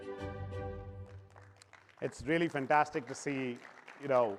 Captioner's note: applause